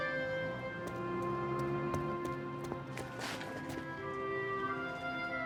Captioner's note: footsteps plodding